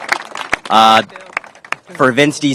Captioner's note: applause